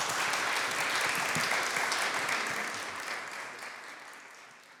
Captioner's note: applause